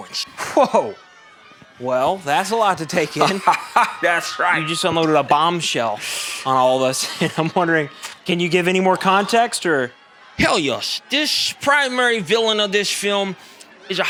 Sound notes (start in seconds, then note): 3.1 Gremlin Man, laughing; 7.0 chuckles